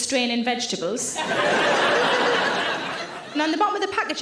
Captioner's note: audience laughing